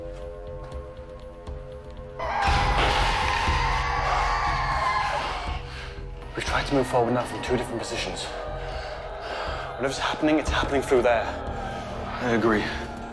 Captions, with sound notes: (dramatic music) (revenant screeching) - We've tried to move forward now from two different positions. Whatever's happening, it's happening through there. - I agree.